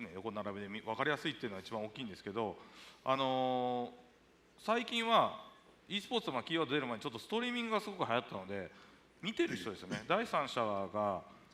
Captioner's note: speaking japanese